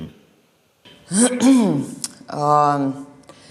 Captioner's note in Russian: прочищает горло